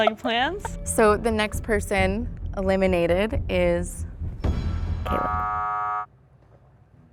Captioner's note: buzzer